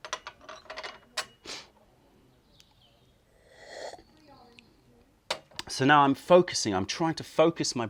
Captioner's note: sips tea